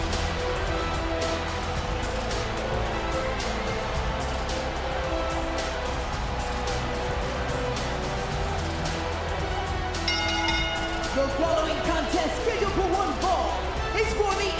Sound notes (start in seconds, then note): 0.0 crowd cheers; 10.0 bell rings